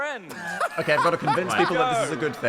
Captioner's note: laughing